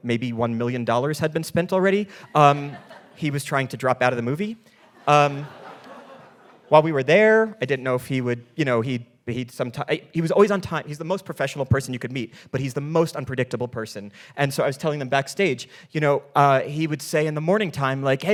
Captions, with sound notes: maybe $1 million had been spent already. He was trying to drop out of the movie. (audience laughing) While we were there, I didn't know if he would, you know, he was always on time. He's the most professional person you could meet, but he's the most unpredictable person. And so I was telling them backstage, you know, he would say in the morning time, like,